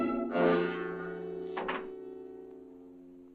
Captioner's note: door closes